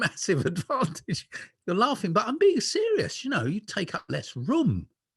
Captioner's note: laughter